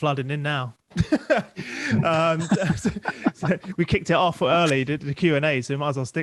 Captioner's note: laughs